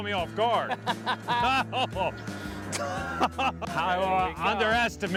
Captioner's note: both laugh